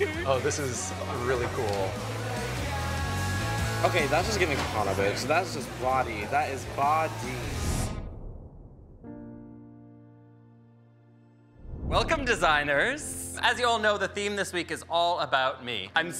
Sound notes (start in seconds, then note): 7.5 image whooshes; 9.0 soft music